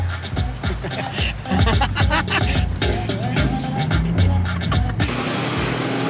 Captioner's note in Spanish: Risas